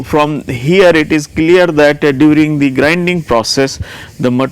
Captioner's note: rubbing